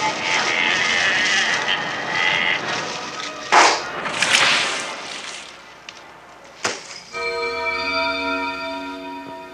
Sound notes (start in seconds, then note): 3.5 splash; 3.5 pop; 7.0 eerie bells